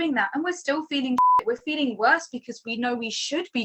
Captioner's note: beep